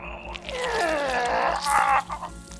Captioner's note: groans